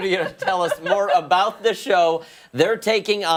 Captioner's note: laughter